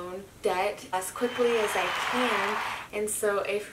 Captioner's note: people applauding